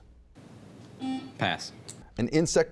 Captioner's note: buzzing